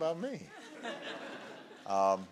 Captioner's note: laughter